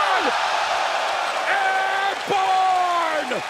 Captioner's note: crowd cheering